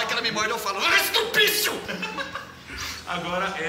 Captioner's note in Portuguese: risos